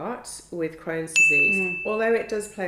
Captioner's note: bell dings